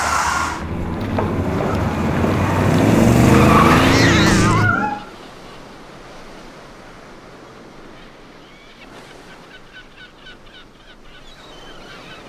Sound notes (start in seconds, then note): 0.0 tires screeching; 4.4 Duffy yowling; 7.2 birds squawking; 7.2 waves splashing